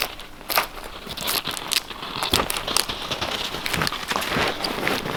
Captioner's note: bark rustling